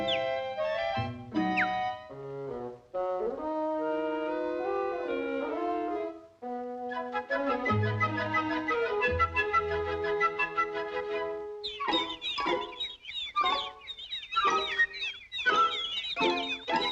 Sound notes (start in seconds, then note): 11.6 chirping